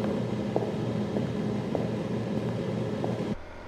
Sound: footsteps

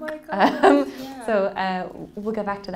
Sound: laughing

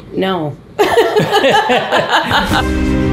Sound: laughing; upbeat music

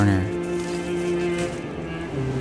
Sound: snow crunching

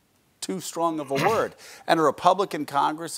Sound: clears his throat

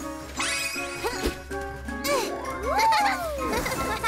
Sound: effort grunts; chuckles

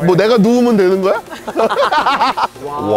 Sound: laughing

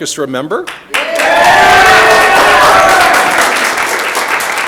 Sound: audience applauding

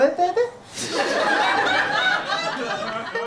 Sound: audience laughter

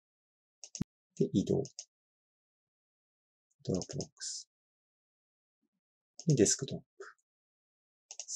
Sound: click

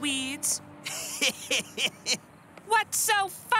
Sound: 1 laughs

